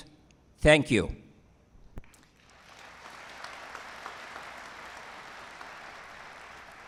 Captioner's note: applause